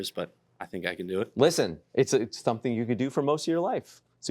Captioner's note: none